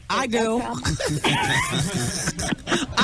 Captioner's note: laughing